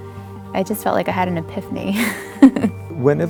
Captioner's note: laughs